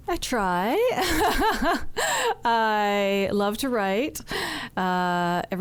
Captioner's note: laughing